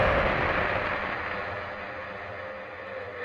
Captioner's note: static hit sound